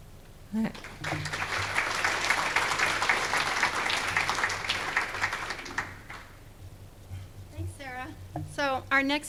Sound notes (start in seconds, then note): 0.7 applause